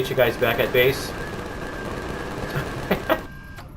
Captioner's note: turret shooting repeatedly; laughs